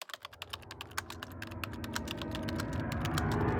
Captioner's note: typing